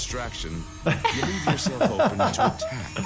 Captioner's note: people laughing